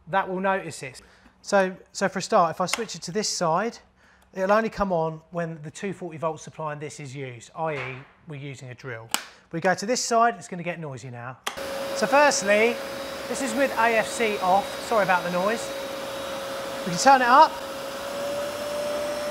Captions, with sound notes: that will notice this. So for a start, if I switch it to this side it'll only come on when the 240 volt supply in this is used, i.e, we're using a drill. We go to this side, it's going to get noisy now. (wet vac roars) - So firstly, this is with AFC off. Sorry about the noise. We'll turn it up.